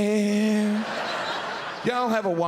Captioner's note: audience laughs